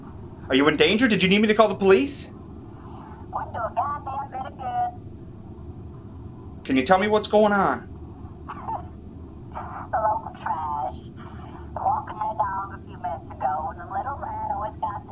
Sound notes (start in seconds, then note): 9.5 caller sobbing